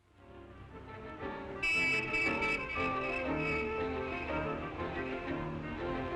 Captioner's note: horn blaring; energetic lively music